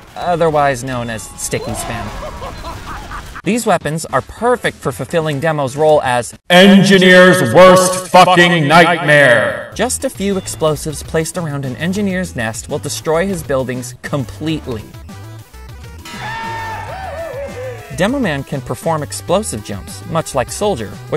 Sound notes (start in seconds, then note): 16.1 goofy yell